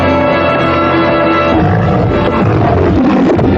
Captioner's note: roaring